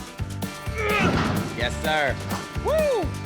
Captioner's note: grunts